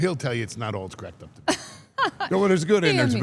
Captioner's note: laughs